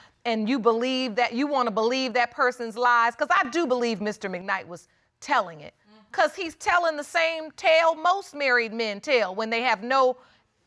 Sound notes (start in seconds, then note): none